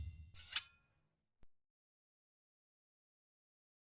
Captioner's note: blade scraping